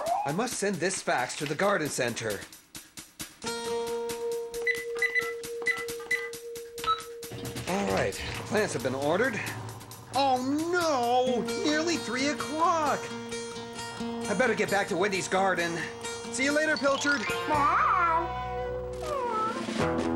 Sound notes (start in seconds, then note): 4.6 fax machine beeping; 19.0 meowing